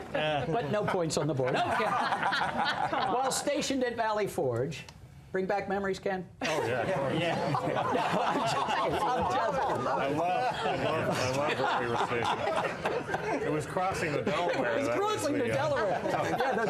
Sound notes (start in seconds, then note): 6.4 laughter